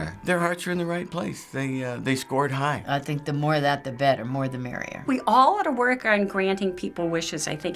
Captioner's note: none